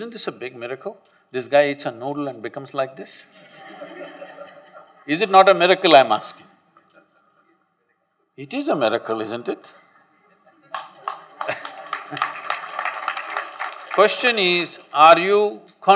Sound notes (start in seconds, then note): 3.3 laughter; 10.7 applause